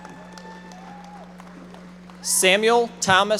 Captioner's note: audience members applauding